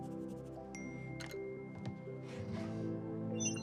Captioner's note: phone chiming